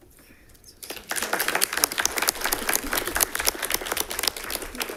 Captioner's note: attendees applauding